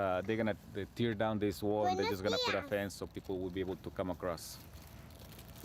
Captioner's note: speaking spanish